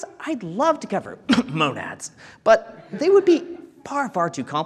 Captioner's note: coughs